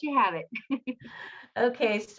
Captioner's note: laughs